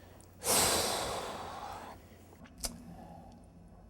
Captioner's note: sighs